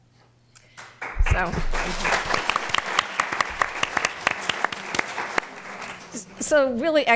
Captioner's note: applause